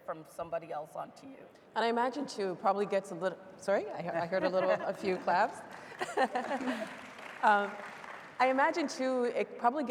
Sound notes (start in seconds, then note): 5.5 laughing; 6.2 audience applauding